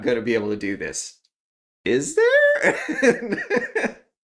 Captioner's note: laugh